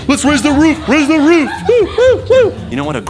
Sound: female giggling

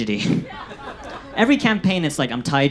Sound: audience laughs

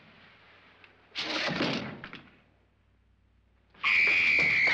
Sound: thump; screaming & footsteps running

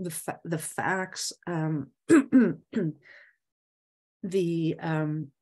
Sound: clears throat

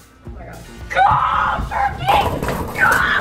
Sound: screaming

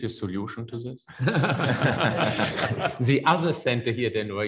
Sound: panelists laugh

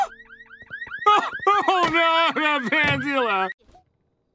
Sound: sobbing

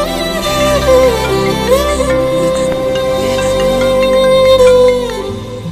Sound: phone ringing

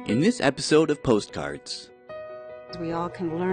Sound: voiceover

